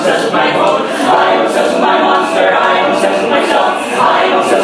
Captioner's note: aaaaaaaaaaaaaaaaaaa